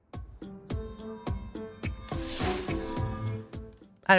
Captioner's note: upbeat music continues; air whooshing